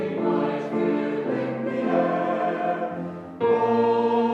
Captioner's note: graduates cheering